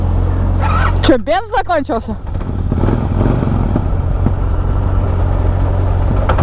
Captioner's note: in Russian